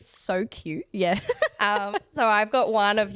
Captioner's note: laughs